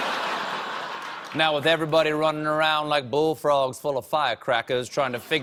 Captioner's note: laughter